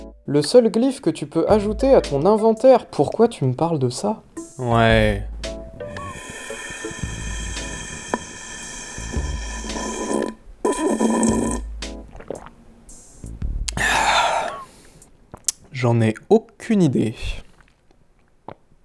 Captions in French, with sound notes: Le seul glyphe que tu peux ajouter à ton inventaire ! Pourquoi tu me parles de ça ? Ouais........ [ssssslluuurrrpppp] [gloups] ahhhhh J'en ai aucune idée.